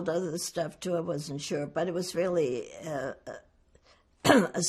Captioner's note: clears throat